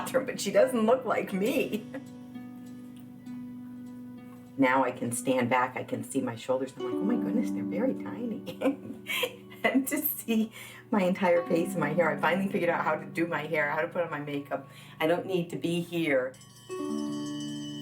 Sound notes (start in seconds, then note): 8.4 laughing